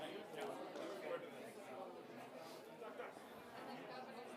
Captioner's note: people chattering